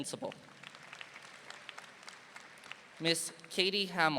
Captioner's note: audience applauding